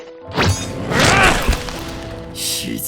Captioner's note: grunt